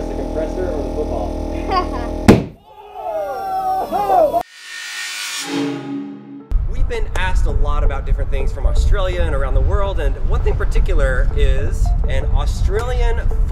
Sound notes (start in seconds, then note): 1.6 laughs; 2.3 loud boom